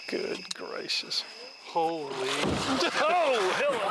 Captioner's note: water splashing